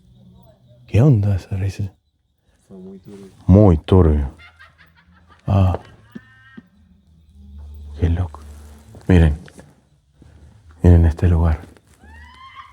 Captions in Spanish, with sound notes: ¿Qué onda esa Risa? Fue muy turbio! Muy turbio [risas] qué loco! Miren, miren este lugar...